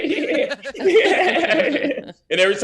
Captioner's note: Jay laughing; laughing